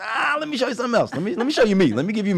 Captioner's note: laughs